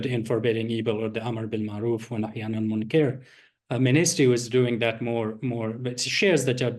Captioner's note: non-english speech